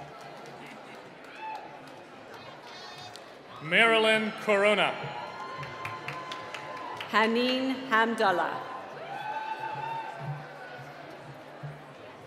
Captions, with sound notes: (cheering) - Marilyn Corona. (cheering and applause) - Haneem Hamdala. (cheering)